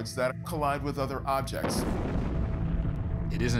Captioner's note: explosion